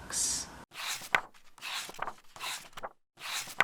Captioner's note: pages turning